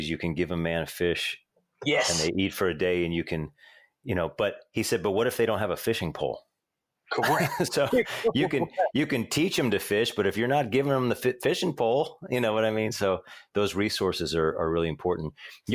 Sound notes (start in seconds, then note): 7.1 laughs